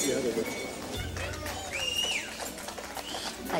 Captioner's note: bell rings; applause